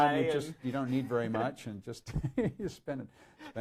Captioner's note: laughs